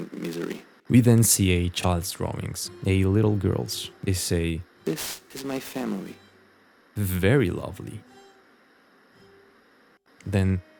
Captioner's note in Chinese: 棒读